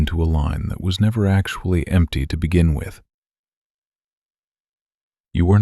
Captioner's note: long pause